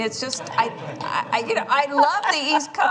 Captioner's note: laughter